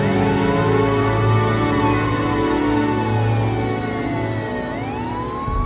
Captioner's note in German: Polizei-Sirenen heulen